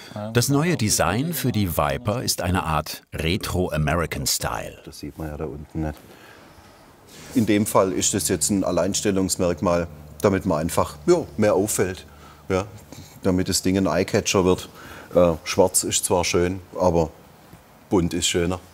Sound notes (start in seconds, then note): none